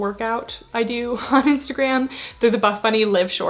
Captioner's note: giggles